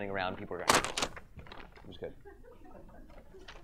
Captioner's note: paper crinkles